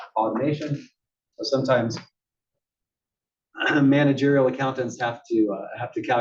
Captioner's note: cough